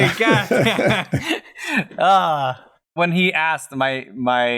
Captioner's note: laughter